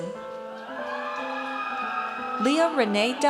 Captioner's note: audience cheers